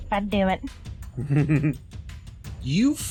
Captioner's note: chuckles